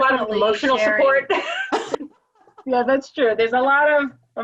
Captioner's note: laugh